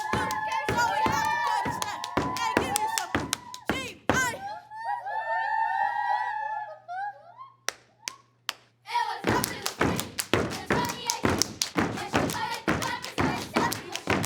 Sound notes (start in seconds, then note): 5.0 students cheer; 7.5 hand slaps